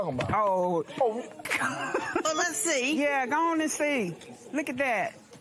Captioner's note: laughs